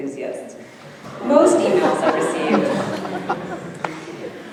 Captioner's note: audience laughing